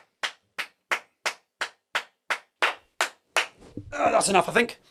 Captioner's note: clapping